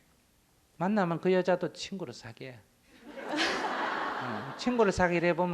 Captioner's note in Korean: 청중 웃음